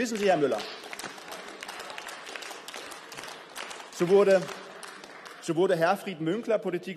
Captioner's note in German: Beifall